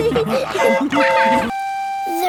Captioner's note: train whistle toots